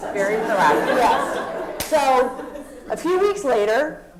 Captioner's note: laugh